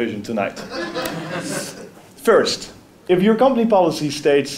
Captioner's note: laugh